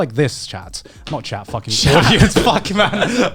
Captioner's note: laughs